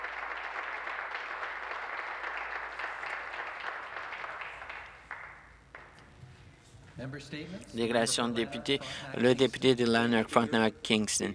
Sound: some Applause

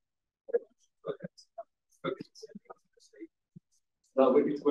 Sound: audio distorting

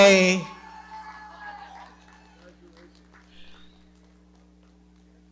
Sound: audience cheering

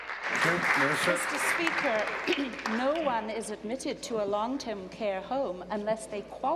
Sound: applause

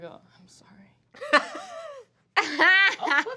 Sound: laughs

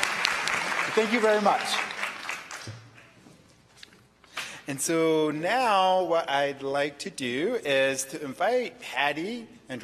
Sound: applause

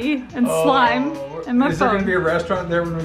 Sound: dad groans

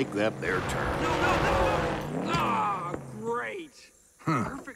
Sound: lightning

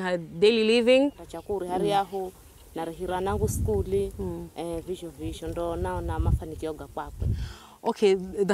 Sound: speaks in Giriama

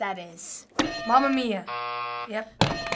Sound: buzzer

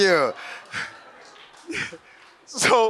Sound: audience laughs

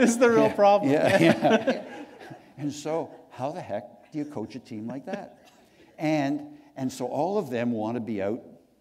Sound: chuckle

